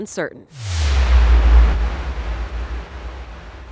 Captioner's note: logo swooshes